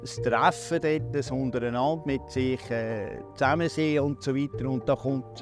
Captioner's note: speaking foreign language